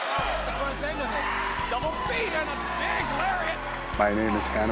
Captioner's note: crowd cheering